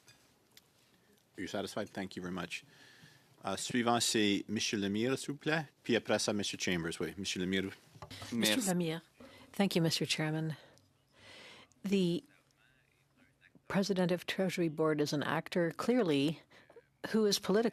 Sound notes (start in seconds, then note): 9.5 speaking in French